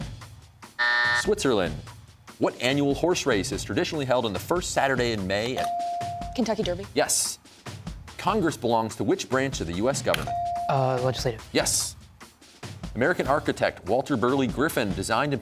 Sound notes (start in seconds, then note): 0.8 buzzer sounds